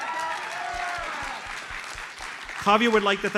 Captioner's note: audience cheers and applauds